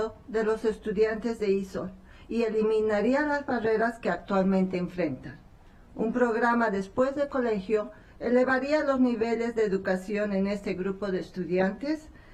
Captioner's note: speaking spanish